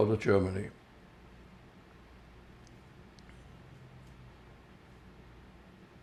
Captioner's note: pauses 6 seconds